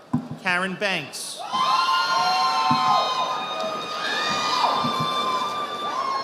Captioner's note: audience applauding